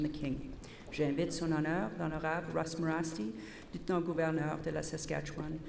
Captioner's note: repeated in French